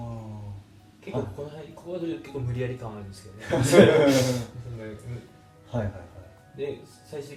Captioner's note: laughs